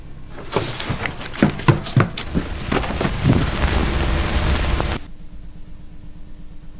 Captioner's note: camera thudding; static hissing